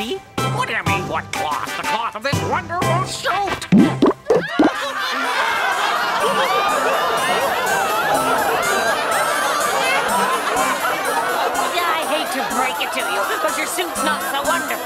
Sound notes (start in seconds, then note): 3.6 townspeople laugh